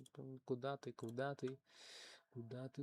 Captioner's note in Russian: none